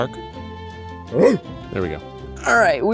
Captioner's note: Ryan barks